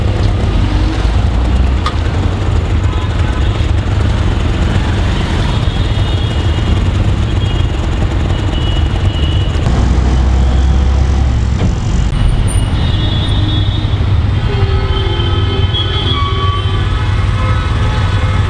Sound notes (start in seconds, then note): 1.4 honking and Traffic Noises